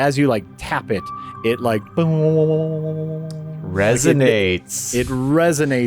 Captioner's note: echoing